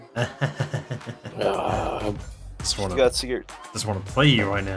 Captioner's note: purposely grunting like perverts